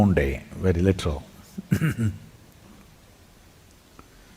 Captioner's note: laughs